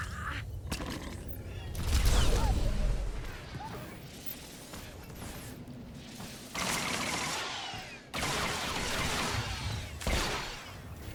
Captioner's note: gun firing